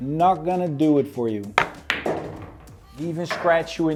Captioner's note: pool ball hitting